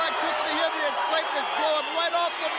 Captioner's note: crowd cheering